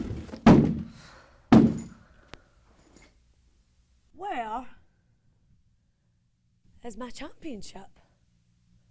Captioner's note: crashing